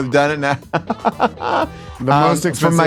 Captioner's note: laughs